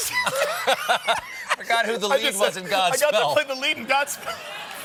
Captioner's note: laughter